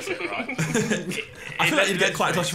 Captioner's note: laughing